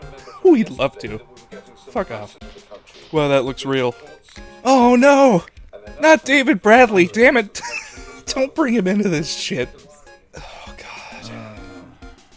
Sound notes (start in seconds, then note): 0.2 laughter; 6.9 wheeze